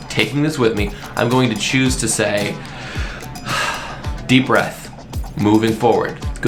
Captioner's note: deep breath